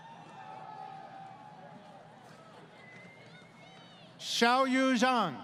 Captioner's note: crowd Cheering